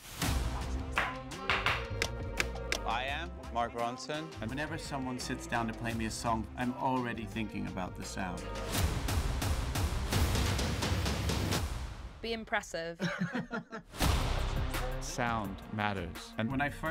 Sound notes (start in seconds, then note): 1.9 ticking; 13.0 chuckles